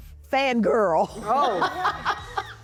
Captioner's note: laughing